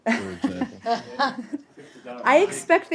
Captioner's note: laughter